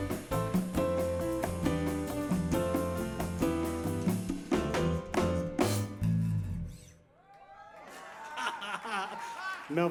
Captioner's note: laughter